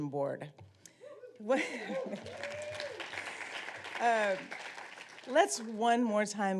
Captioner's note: audience applauding and whooping